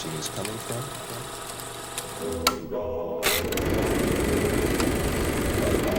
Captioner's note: projector clicking